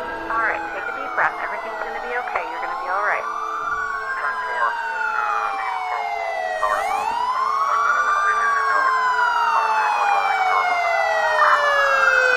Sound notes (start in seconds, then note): 3.9 sirens